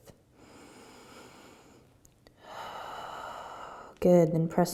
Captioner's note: inhaling and exhaling